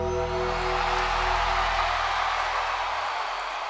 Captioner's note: ominous music; audience cheers